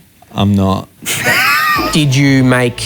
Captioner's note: laughs